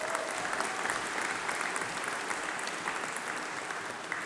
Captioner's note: applause